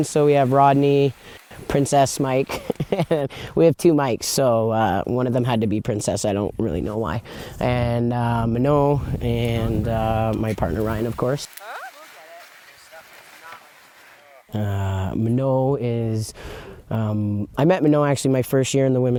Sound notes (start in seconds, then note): 2.5 laughs